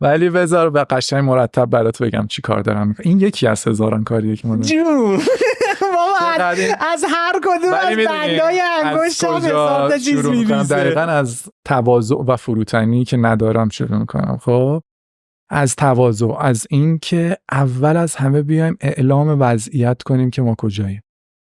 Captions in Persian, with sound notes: ولی بذار قشنگ مرتب برات بگم چه‌کار دارم می‌کنم. این یکی از هزاران کاریه که ما داریم. - جون! (خنده) بابا از هرکدوم از بندهای - ولی می‌دونی - انگشتم هزار تا چیز می‌ریزه. - از کجا شروع می‌کنم؟ دقیقاً از تواضع و فروتنی که ندارم شروع می‌کنم. از تواضع، از اینکه اول از همه بیاییم اعلام وضعیت کنیم که ما کجاییم.